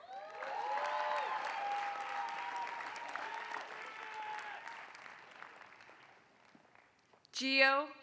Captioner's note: applause